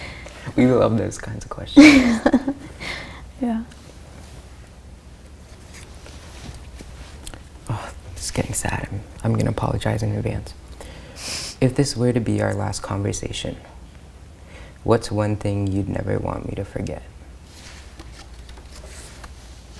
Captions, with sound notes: - We love those kinds of questions. - (laughs) Yeah. - Oh, this is getting sad, I'm gonna apologize in advance. If this were to be our last conversation, what's one thing you'd never want me to forget?